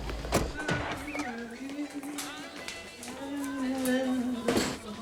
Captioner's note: humming